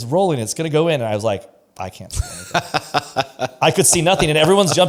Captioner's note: laughs